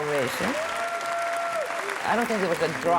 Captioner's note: audience cheering and clapping